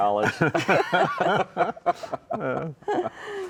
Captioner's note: all laughing